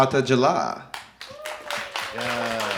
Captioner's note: audience applauding